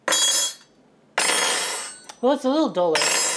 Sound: clank; thud; clank

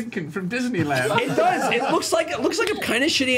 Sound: all laugh

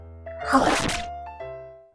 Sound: snap

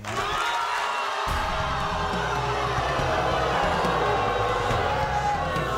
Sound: audience booing

